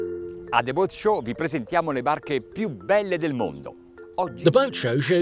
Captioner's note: speaking in foreign language